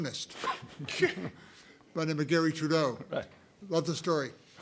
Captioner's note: laugh